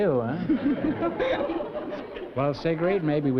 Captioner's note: laughter